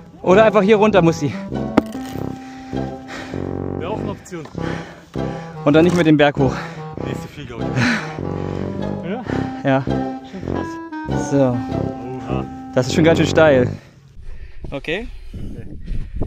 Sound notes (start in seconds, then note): 9.0 speaking German